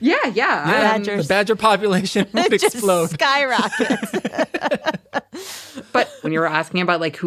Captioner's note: laughs